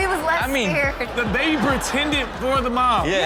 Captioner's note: audience laughs